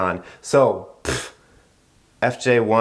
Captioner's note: blows raspberry